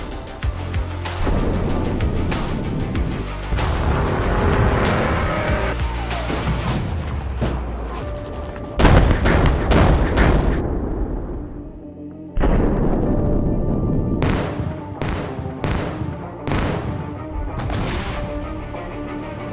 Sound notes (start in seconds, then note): 3.4 low-pitched lasers